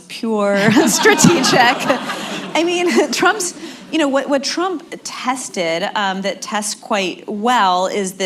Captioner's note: laughter